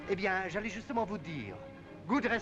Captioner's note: speaking in foreign language